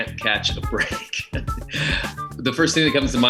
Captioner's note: laughs